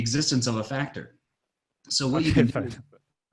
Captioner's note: laughing